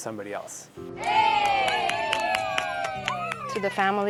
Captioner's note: cheers